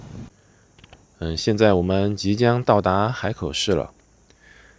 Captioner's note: 英语; 英语